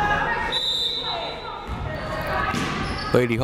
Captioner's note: whistle blaring